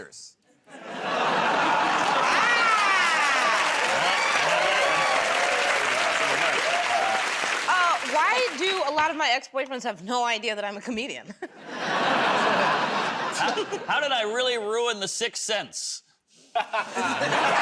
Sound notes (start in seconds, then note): 0.6 laughter; 4.1 cheers and applause; 11.3 laughter; 11.3 chuckles; 16.5 laughs